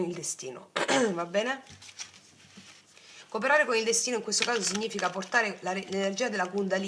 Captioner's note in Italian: schiarire la voce